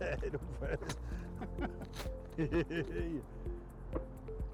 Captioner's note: laughing; calm electronic music